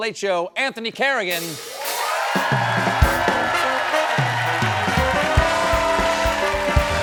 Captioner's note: cheers and applause